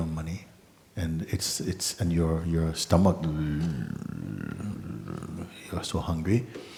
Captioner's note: grumbling noise